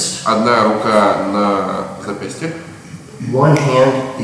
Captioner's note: speaking in a foreign language